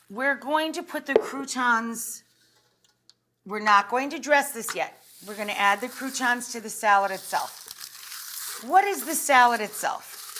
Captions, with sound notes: We're going to put the croutons, we're not going to dress this yet. We're gonna add the croutons to the salad itself. (wax paper crinkling) What is the salad itself?